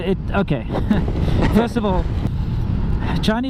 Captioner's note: laughs